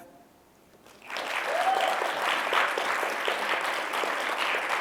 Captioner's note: applause